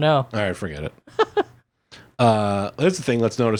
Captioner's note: laughing